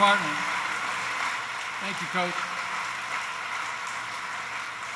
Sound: applause

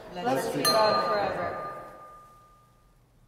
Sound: altar bell chiming

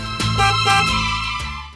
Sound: horn honking

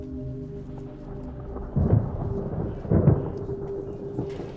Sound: thunder Rumbling

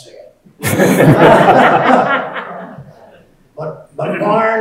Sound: audience laughing

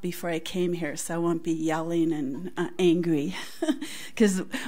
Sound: laughs

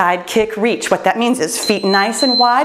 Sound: timer beeps

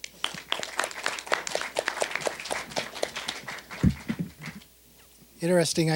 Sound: applause

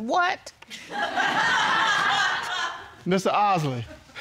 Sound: audience laughing

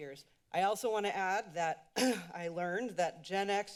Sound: clears throat

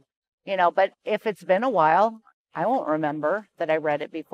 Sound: none

